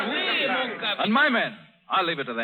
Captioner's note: chatter